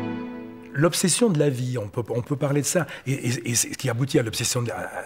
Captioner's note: French spoken audio